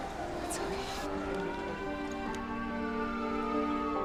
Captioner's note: police siren wailing